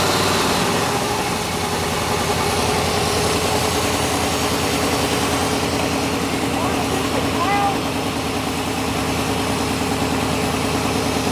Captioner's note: motor Whirring